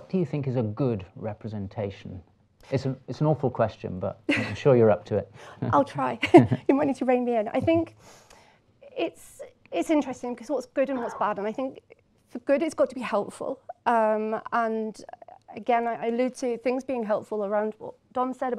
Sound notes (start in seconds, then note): 6.2 laughter; 6.2 chuckles